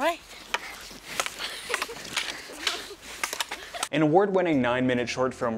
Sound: sticks clack

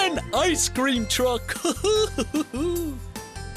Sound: chuckles

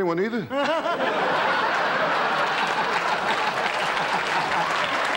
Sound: audience laughter

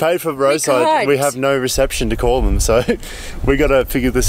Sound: laughs

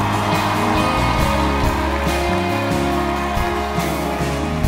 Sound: audience cheering

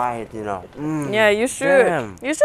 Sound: In a rather...Luciferian voice

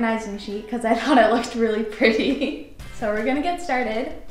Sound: giggles

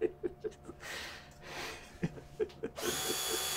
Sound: laughing

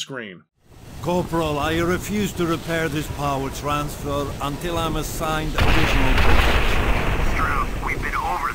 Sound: explosions; VOSS over the radio

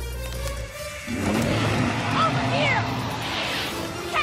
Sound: roaring

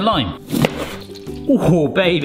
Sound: knife cutting

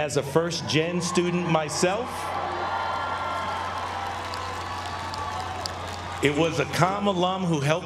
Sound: applause

